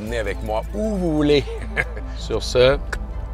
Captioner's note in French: rires